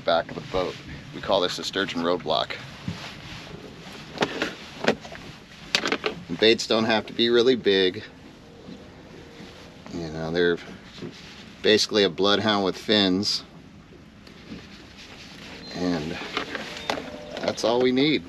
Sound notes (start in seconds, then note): none